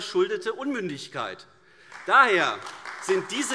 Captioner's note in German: Beifall AfD